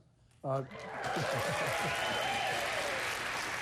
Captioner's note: applause